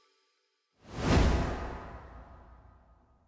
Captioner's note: logo whooshing